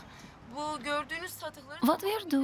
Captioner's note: speaking Turkish